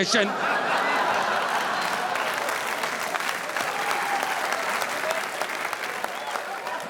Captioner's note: audience laughing; audience applauding